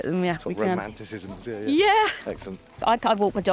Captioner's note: chuckling